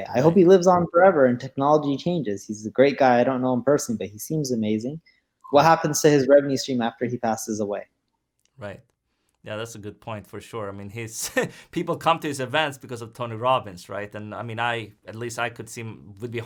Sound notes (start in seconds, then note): 11.2 chuckles